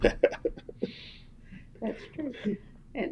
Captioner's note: laughter